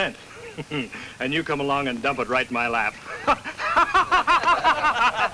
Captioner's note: laughs